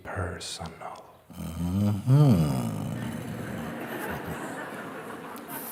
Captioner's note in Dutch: gelach